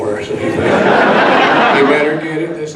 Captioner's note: audience laughs